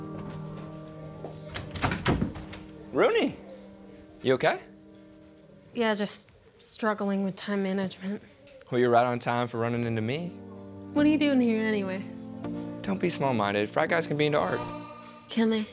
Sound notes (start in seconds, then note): 1.5 door slamming